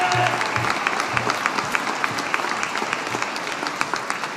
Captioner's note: audience applauding